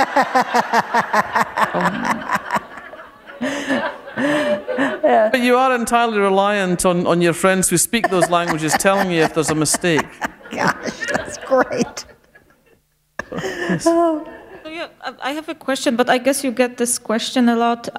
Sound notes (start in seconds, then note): 0.1 laughter; 10.3 chuckle